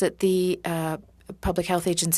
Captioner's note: speaking French